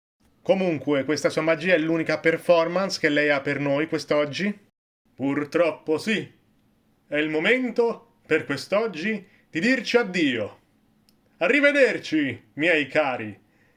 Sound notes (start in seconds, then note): none